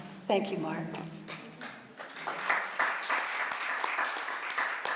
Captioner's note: applause